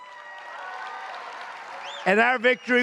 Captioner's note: applause